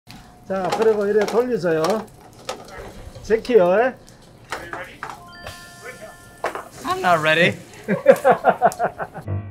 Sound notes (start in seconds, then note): 0.4 speaking in Korean; 7.7 staff laugh; 9.2 upbeat music begins